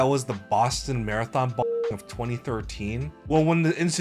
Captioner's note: beep